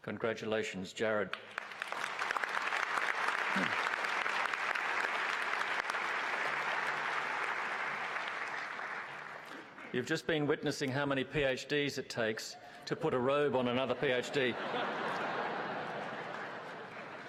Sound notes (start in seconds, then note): 13.1 applause